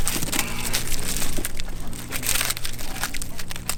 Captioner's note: tree cracking